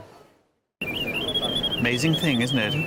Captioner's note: birdsong